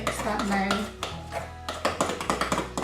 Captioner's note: spoon hitting bowl